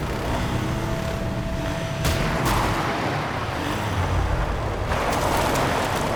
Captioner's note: explosion